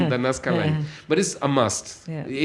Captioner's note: laughs